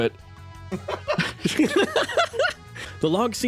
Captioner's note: laughs